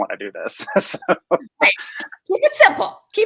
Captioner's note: laughing